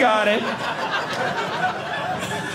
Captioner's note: audience laughing